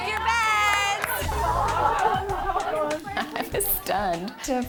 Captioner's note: women laughing